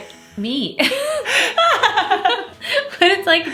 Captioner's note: laughs